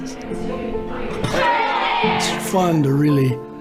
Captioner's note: people mumbling